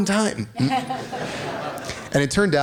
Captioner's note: laughter